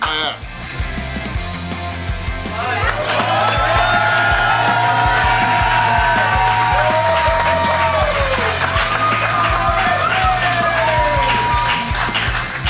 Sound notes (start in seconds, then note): 2.3 crowd cheering; 2.4 crowd applauding